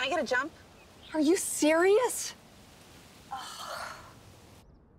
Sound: sighs

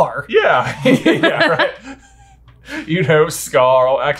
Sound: all laughing

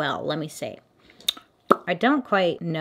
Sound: lip pop

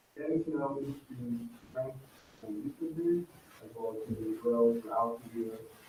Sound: speaking faintly off mic

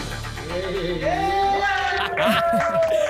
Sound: applause and cheering; laugh

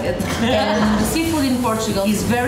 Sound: laughing

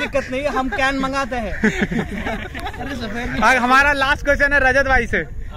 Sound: laughter

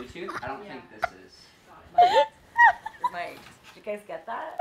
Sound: both laughing

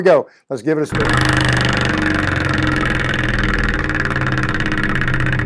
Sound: wheel spinning

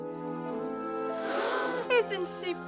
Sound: gasp in fear

